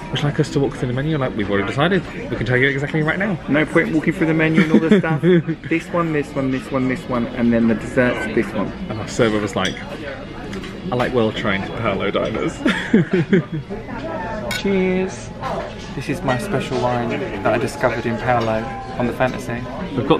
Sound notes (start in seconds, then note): 12.6 chuckles; 14.4 glasses clink